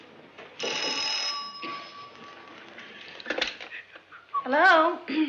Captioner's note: phone rings